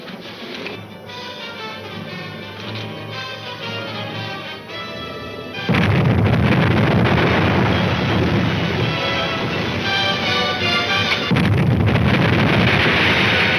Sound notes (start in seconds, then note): 0.4 soft dramatic music; 5.6 explosions exploding